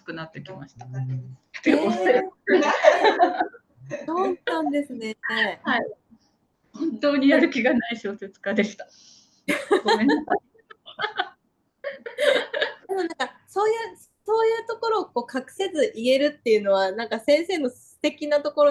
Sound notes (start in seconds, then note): 6.2 laughs